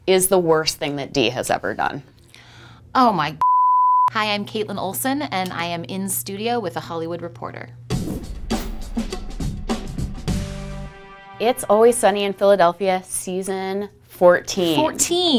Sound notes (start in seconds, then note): 3.4 beeping; 8.0 upbeat percussion music